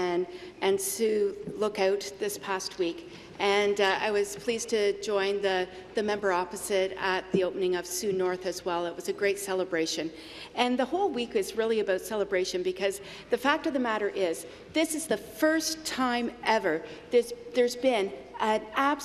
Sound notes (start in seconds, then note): none